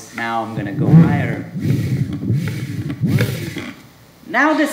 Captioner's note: buzzing